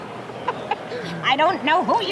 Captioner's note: belly laughing